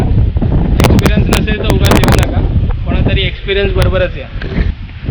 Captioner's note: windy